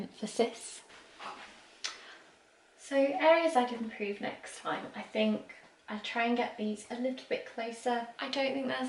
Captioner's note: huffs